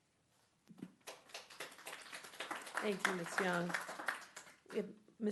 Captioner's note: clapping